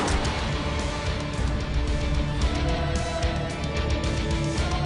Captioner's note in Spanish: Disparo